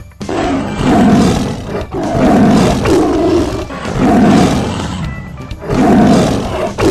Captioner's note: roar voices